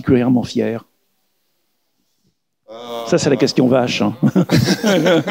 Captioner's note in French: rires